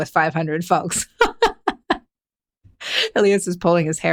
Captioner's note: laughing